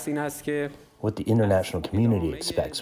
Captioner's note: through translator